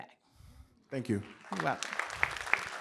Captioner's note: applause